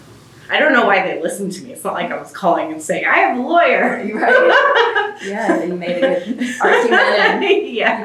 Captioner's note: laughs